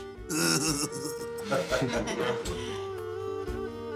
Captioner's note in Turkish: Gülerler